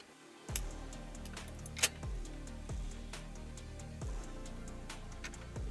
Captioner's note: upbeat music; components clanking